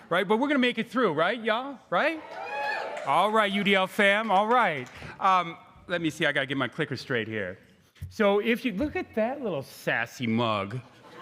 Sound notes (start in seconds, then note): 2.0 crowd cheering